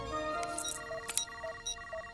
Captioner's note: beeping; click